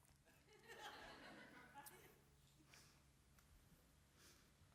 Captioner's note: audience laughing